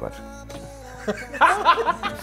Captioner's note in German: Lachen